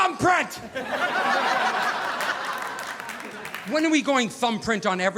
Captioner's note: audience laughing